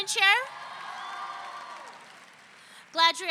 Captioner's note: audience cheering